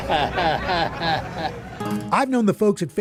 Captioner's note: chuckles